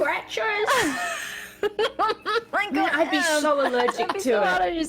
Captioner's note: giggles